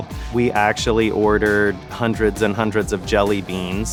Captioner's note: none